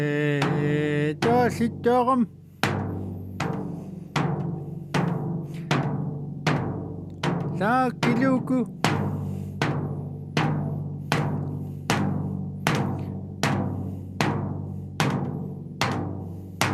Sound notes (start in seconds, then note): 1.3 drum pounding; 1.3 speaking in Native language; 7.7 speaking in Native language